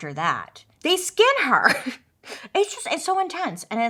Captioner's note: laughs